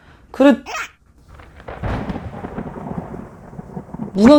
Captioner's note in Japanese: もの凄い雷；；